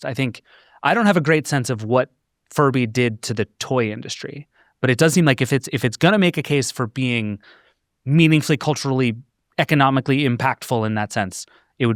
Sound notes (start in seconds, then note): none